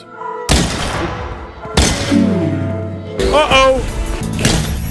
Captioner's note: gun fires